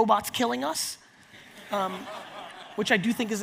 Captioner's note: audience laughs